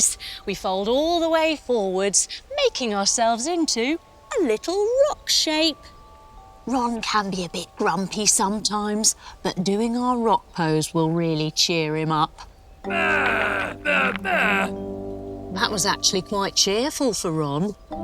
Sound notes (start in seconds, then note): 12.9 Ron grunts